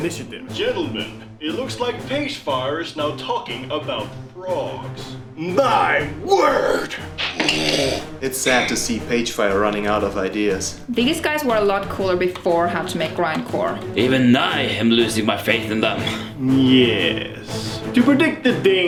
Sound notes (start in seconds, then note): 7.0 sips aggressively